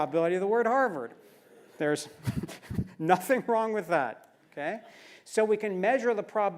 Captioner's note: laugh